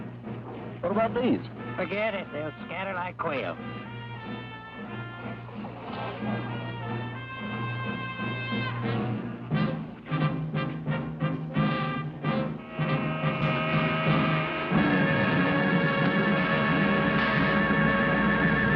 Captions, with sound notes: - What about these? - Forget it. They'll scatter like quail. (car horn honking) (tense menacing music)